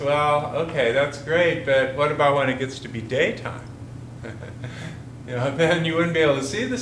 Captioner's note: chuckles